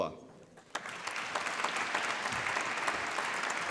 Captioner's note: applause